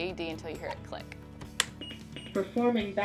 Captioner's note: battery clicks into place, AED Beeps